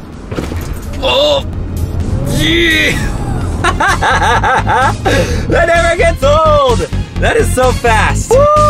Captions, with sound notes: (man groans) (man laughing) That never gets old; that is so fast!